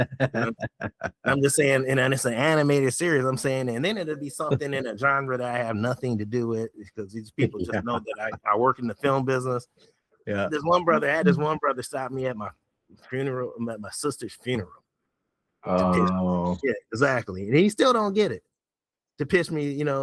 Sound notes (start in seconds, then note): 0.0 laughing